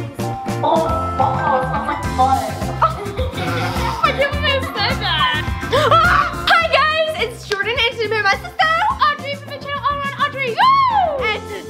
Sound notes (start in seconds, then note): 3.1 both laugh; 5.7 cries out